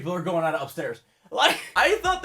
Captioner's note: wheeze